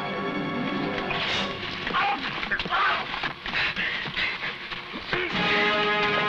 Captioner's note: fist smashing; men grunting; tense music